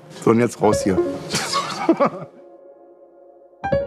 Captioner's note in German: Er lacht